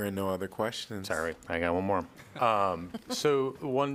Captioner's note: laughter